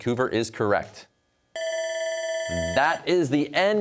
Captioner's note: bell ringing